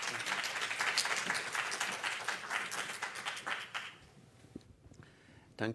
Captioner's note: applause